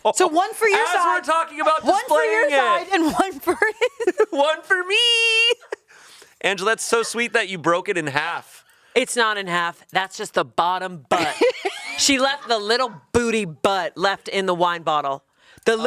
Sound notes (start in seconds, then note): 0.0 laughs; 4.0 laughs